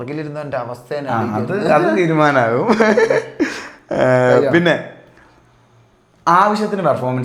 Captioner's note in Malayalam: പൊട്ടിച്ചിരി